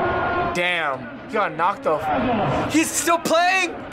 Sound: none

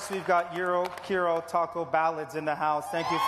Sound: applause

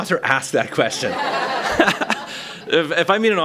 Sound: laughter

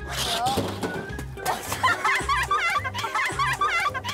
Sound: three-can crash

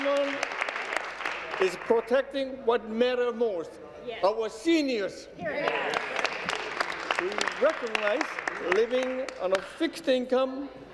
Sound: applause; applause

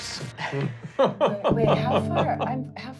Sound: laughing

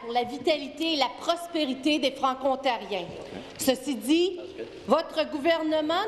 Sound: speaking in French

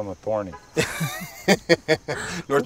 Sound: laughter

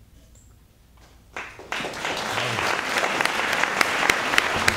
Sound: applause

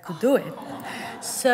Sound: laughter

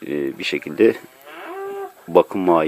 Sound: sound of a cow

